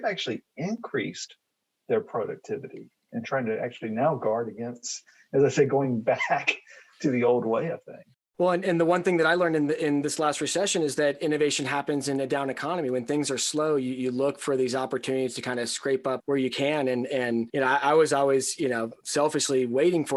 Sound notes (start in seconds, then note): 6.5 chuckles